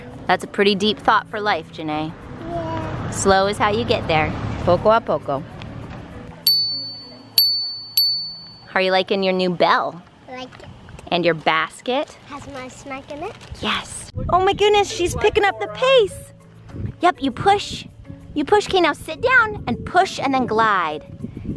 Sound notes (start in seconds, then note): 4.7 speaking in foreign language; 6.4 bell dings